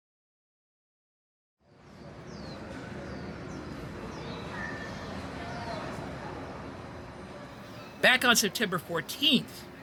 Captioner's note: none